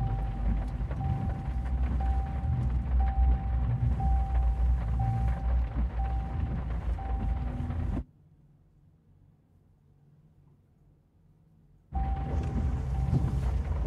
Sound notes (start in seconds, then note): 8.1 silence